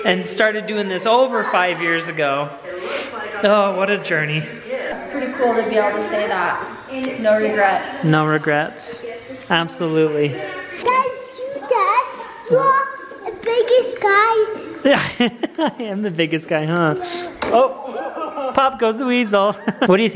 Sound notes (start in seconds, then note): 17.5 laughs